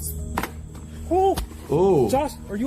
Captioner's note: ax thunks